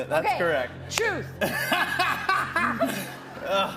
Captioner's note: laughs